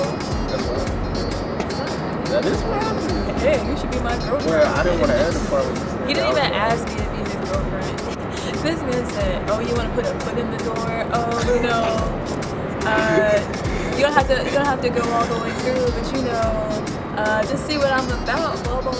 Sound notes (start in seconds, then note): 2.9 macho voice; 18.4 laughs